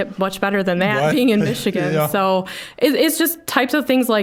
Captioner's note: chuckling